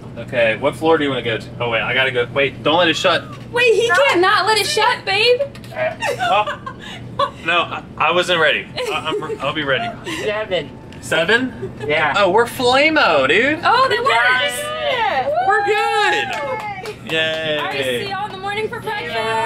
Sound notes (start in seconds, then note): 5.9 laughing; 8.8 laughing; 16.2 clapping; 16.7 all cheering